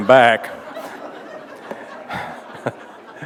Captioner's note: laughter